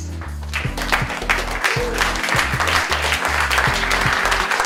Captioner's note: audience clapping